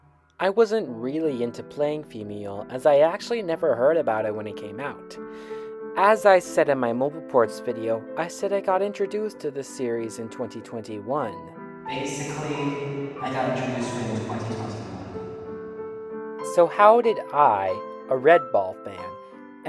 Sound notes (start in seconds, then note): 11.8 echo